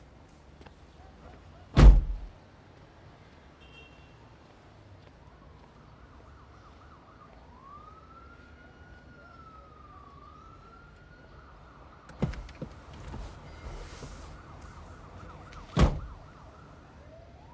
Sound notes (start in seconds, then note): 5.8 siren in the distance; 12.1 car door opens; 15.7 car door closes